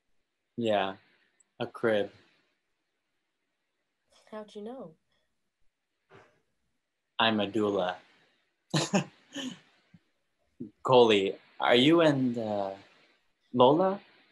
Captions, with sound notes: - Yeah. A crib. - How'd you know? - I'm a doula. (giggling) Coley. Are you and, Lola?